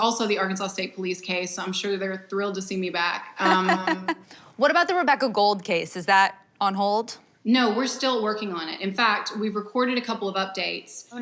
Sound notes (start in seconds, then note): 3.4 laughter